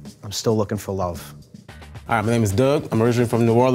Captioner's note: none